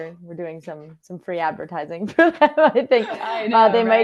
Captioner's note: laughs